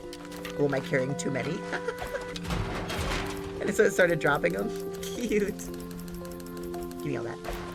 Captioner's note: laughs